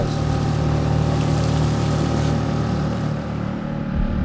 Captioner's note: boat engine humming